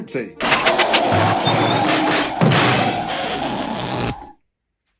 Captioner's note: car motor sputtering